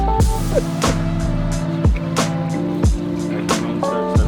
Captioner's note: laughing